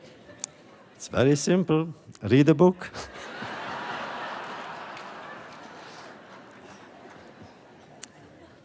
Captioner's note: laughter